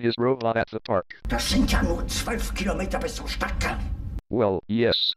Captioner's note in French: au téléphone